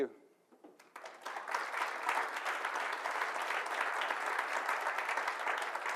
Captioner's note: audience applauding